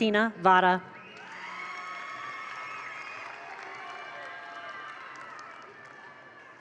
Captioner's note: attendees cheer; attendees applaud